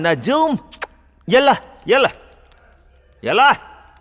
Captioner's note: Speaking in Arabic